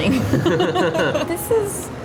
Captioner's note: both laugh